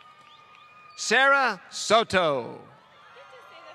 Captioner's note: applause